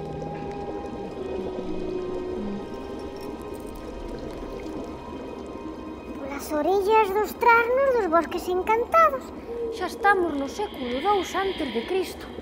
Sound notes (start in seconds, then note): 6.2 distorted, high-pitched voice